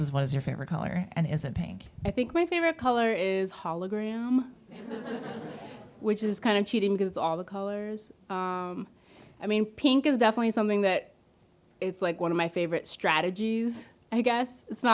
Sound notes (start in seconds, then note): 4.7 audience laughing